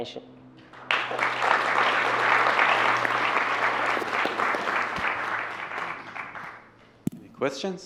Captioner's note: applause